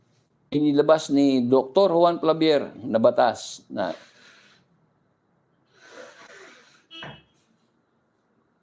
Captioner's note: sighs